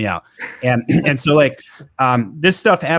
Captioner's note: chuckles